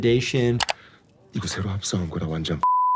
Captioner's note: Thanos speaking in Korean; beep